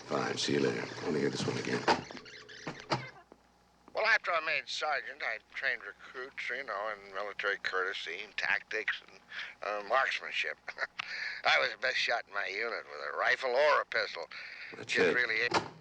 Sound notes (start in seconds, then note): 2.5 tape rewinding